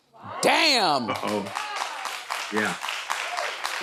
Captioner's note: audience applauding